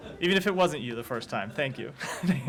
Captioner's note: laughter